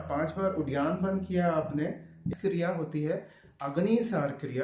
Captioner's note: exhale